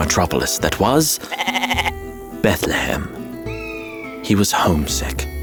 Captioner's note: goat bleating